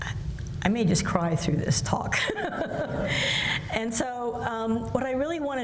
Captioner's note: laughs